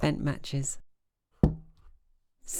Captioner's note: clunk sound